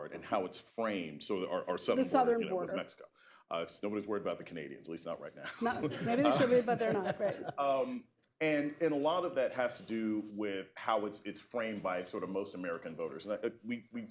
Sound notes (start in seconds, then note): 5.4 laughter